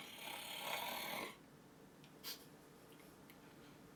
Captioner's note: snoring